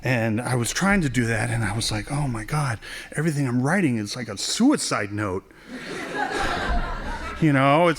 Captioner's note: laughing